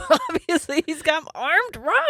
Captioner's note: laughing